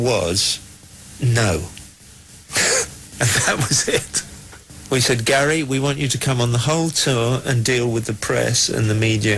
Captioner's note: laughing